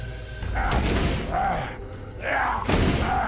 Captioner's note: dramatic music; man growling; thudding